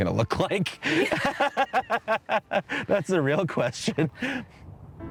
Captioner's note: laughter